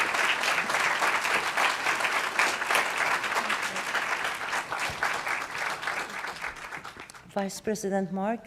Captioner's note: applause